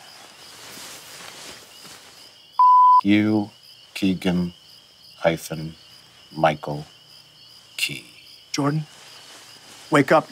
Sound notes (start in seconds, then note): 2.6 beeping